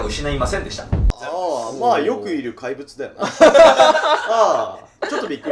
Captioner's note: laughing